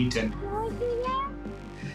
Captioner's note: child babbles